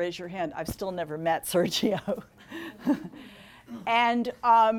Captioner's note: laughing